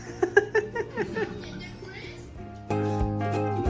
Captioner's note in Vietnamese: tiếng cười